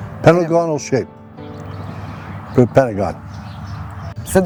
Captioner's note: pat